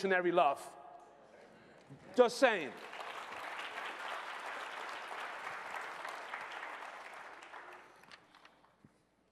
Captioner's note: applause